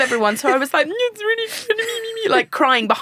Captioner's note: sobbing